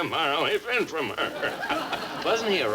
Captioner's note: audience laughs